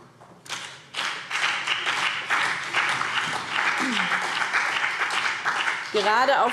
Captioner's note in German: Beifall BÜNDNIS 90/DIE GRÜNEN